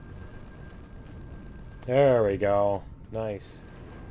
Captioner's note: turrets firing